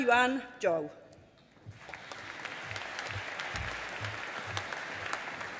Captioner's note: audience applauding